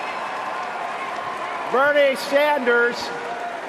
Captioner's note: cheering and applause